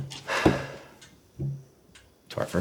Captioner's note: Ulysses exhales